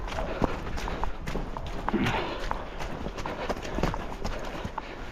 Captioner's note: grunts while jumping; breathing heavily